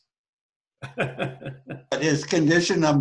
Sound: laughs

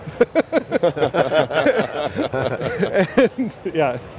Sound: panelists laughing

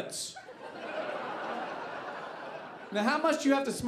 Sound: audience laughing

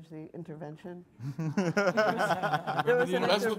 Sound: all laughing

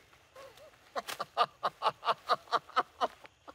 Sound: laughing

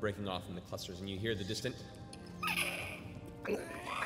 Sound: screeching

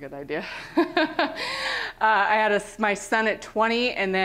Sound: laughter

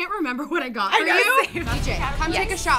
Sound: laughs

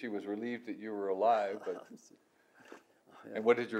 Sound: laughs

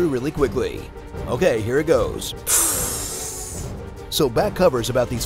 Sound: inhales

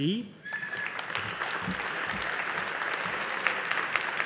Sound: audience applauding

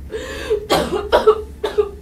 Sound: Lisa coughs

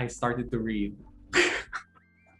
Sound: laughs

